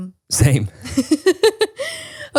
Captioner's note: laughs